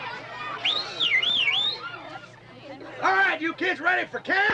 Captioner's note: whistles